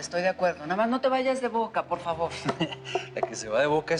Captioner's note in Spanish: Ismael ríe